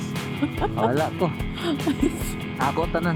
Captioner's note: laughing